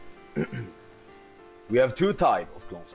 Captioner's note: hrm